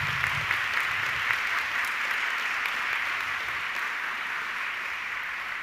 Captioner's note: audience clapping